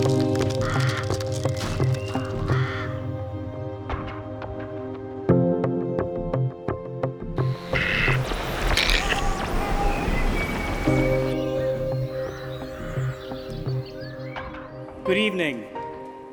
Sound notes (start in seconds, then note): 0.0 birds chirping; 8.6 contemplative music continues; 11.9 birds chirping